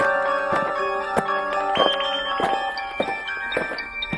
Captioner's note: aliens marching; eerie music